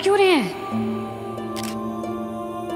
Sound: camera clicking

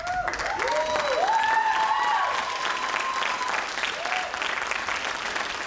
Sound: audience cheers; audience applauds

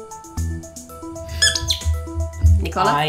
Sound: squeak!

